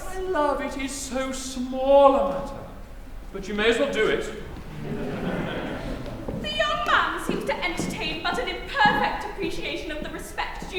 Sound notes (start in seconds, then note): 4.6 laughter